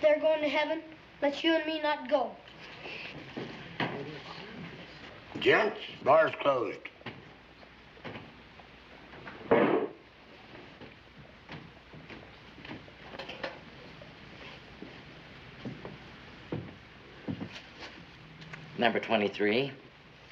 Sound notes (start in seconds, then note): 4.1 Kit hushes